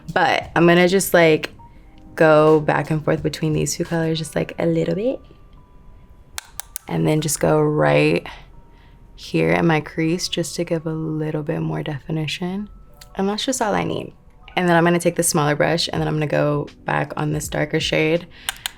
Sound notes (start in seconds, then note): 6.4 brush tapping; 18.5 brush tapping